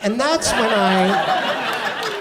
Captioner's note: audience laughs